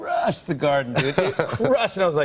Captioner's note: laughs